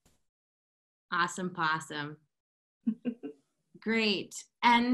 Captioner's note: laughter